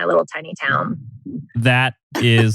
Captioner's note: laughs